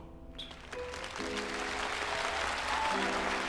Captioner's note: audience applauding